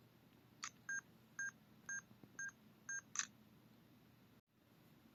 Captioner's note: beeping